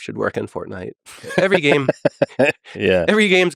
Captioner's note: Lex laughing